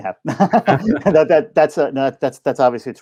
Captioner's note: both laughing